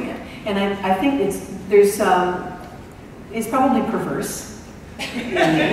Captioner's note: laughter